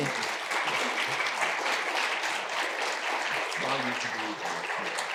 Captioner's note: audience applauding